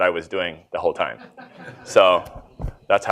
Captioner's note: laughter